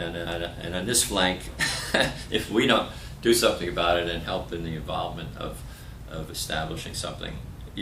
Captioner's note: laughter